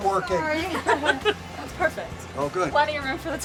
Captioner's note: laughing